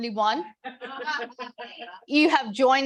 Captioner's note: audience laughing